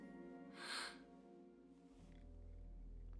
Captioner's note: gasps